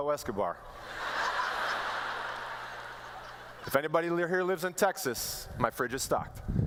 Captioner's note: laughter